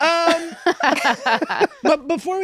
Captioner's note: laughter